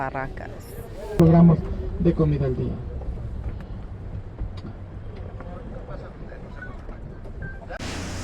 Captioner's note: tour guide speaking Spanish